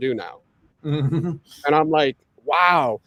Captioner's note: chuckles